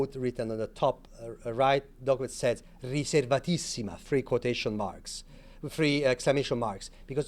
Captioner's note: speaking Italian